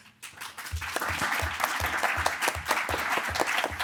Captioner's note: audience applauding